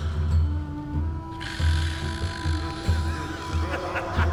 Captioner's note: snoring; muffled laughter can be heard